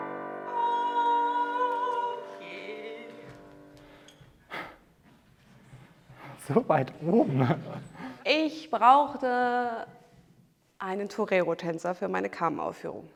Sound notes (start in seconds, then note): 4.4 gasping; 7.1 laughing